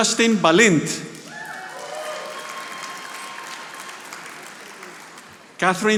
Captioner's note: audience applauding